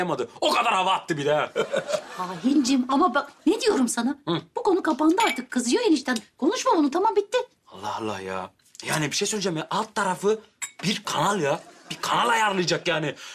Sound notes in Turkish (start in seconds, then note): 1.4 Gülme sesi